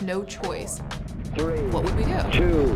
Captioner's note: man On Radio